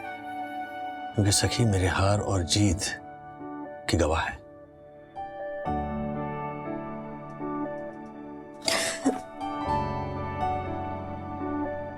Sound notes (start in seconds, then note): 5.4 sentimental music playing; 8.6 sobs